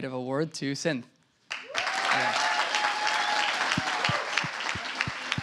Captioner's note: applause